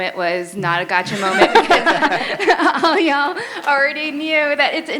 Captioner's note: laughter